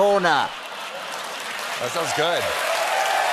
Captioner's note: cheers and applause